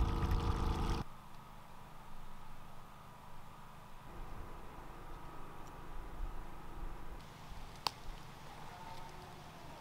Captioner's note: water running